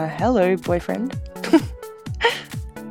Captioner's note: laughs